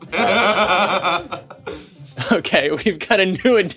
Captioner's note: streamers laughing